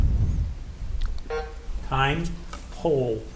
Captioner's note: timer buzzing